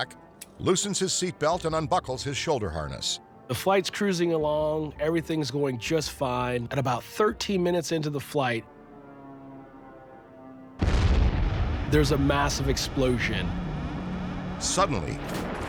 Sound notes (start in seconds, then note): 10.8 explosion bangs